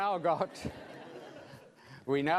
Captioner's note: laughing